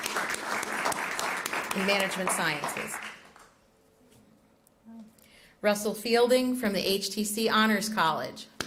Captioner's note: applause